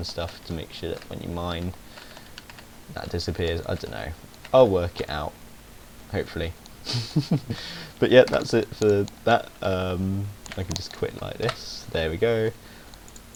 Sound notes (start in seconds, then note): 6.8 he snickers